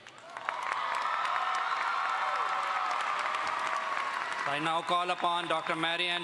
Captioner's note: audience cheers and applauds